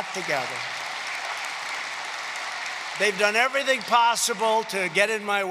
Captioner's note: applause